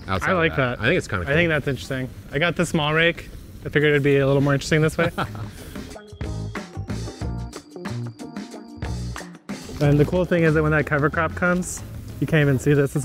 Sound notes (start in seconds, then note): 4.9 laughs; 7.1 funky music continues